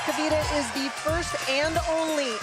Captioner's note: speaking foreign language